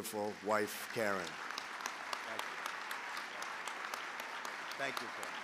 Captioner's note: applause